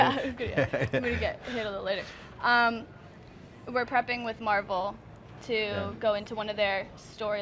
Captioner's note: they laugh